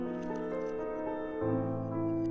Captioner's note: whirring